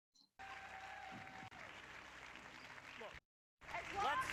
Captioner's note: audience cheering